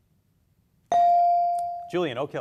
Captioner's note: beep